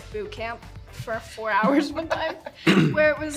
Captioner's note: chuckle